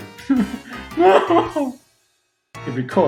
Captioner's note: laughing; laughs